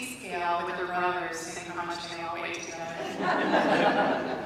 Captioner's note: laughter